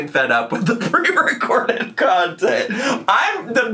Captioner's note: laughing